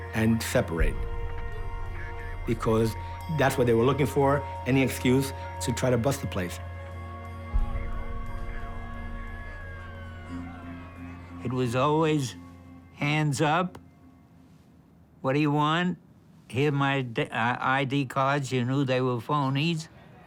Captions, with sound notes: and separate. Because that's what they were looking for, any excuse to try to bust the place. (sirens sounding faintly) It was always, hands up, "What do you want?" "Here are my I.D. cards." You knew they were phonies.